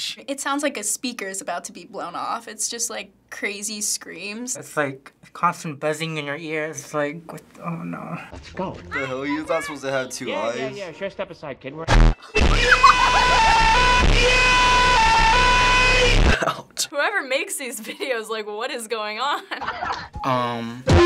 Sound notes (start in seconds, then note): 12.2 laughing; 12.3 blare; 12.4 blaring scream; 19.4 laughter